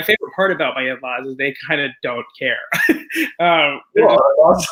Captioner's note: chuckles